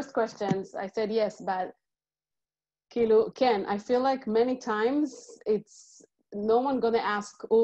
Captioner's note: Hebrew